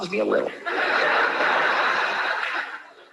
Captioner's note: laughter